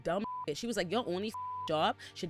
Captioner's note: beep